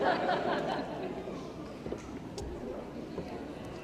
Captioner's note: laughter